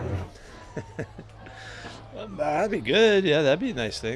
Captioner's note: laughs